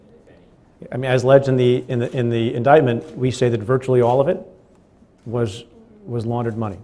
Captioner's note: stutters